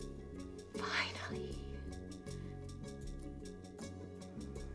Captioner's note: whispers